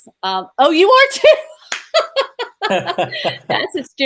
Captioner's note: laughs